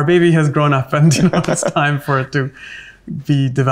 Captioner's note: laughs